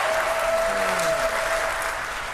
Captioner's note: applause